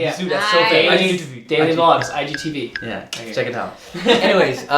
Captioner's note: wink ding; laughing